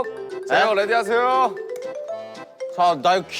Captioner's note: click